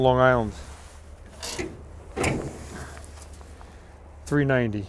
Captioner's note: hood creaking